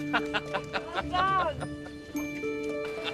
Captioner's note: laughter